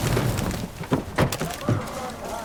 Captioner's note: gunshots